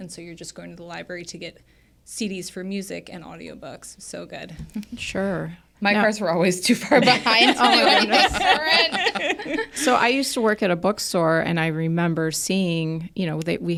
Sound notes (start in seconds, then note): 6.9 everybody laughs